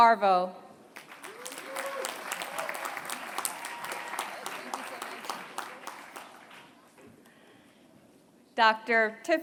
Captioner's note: applause